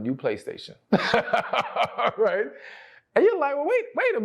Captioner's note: laughs